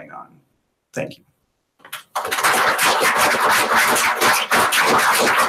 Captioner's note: applause